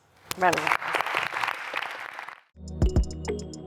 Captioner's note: applause